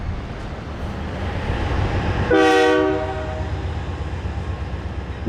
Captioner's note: cars passing and train horn